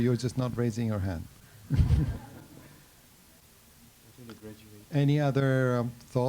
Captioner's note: laughter